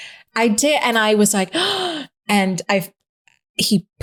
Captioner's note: gasps